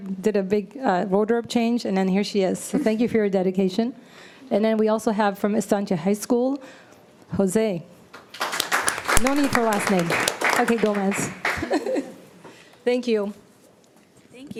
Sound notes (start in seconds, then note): 10.7 audience applauding; 11.3 chuckles